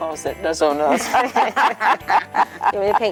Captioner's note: laughing